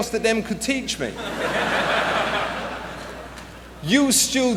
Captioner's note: laughter